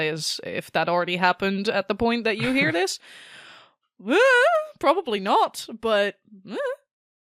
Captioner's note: stressed and unsure noises